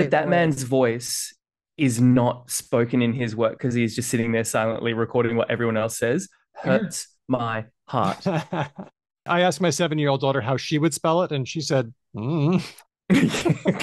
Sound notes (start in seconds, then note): 8.0 laughs